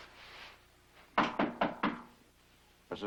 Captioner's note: knocking at the door